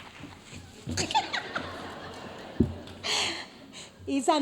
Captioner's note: laughs; audience laughs